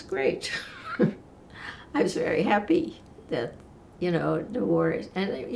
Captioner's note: laughing